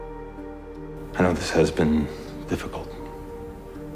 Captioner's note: voiceover